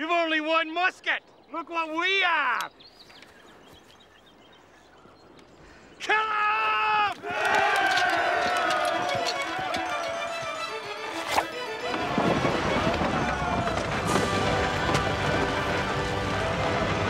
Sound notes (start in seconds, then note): 7.4 yelling